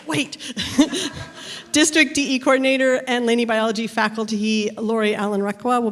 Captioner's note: laughs